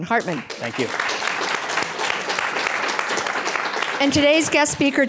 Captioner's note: applauds